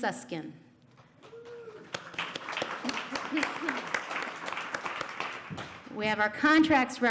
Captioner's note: applause